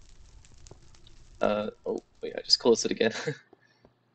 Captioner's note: laughs